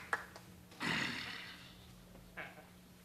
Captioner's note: sighs